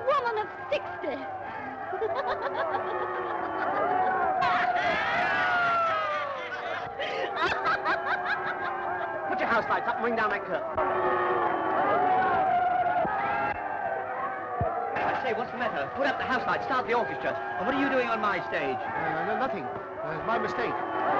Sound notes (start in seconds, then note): 2.1 laughs; 3.3 booing and jeering; 7.5 laughing; 11.8 audience booing and jeering